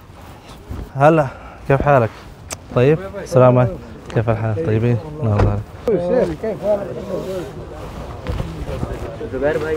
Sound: Arabic

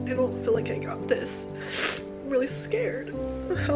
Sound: sniffs

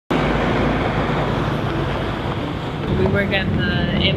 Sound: engine rumbling

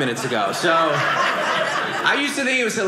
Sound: audience laughing

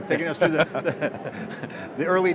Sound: laughing

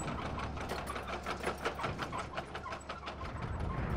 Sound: engine hums

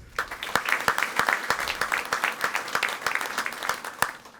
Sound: audience applauding

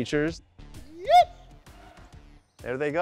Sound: yipping; faint yips in response

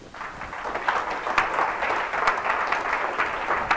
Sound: audience clapping

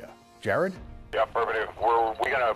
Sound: man On phone

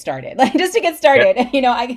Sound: laughs

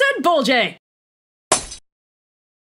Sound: glass shatters

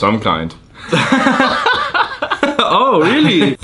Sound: laughter

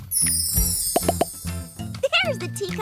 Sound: popping

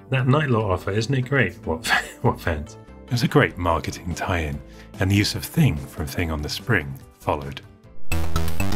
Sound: laughs

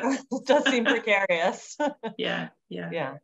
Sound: chuckling

